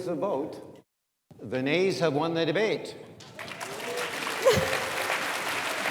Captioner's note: audience applauds